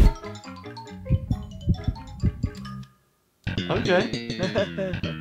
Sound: playful music; heart beating

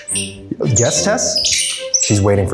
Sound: loud money noises

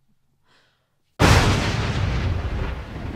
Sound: thunder

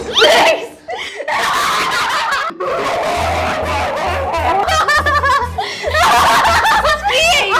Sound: laughing

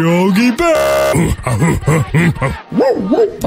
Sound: grunting

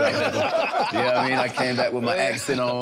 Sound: everyone laughing amusingly

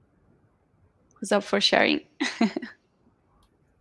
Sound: chuckles

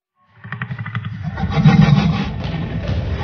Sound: Indominus Rex growling

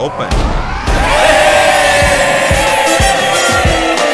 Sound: hooting

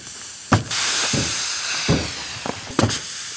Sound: hissing

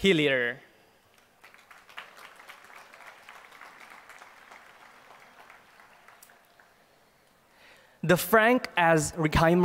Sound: applause

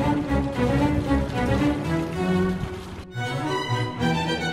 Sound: trickling water; classical music

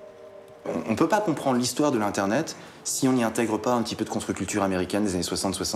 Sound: speaking in a foreign language

